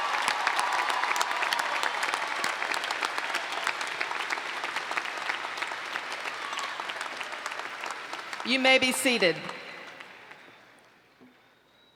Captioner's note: cheers and Applause